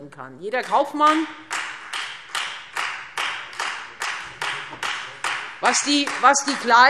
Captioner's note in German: Beifall Freie Demokraten